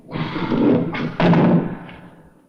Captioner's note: clunking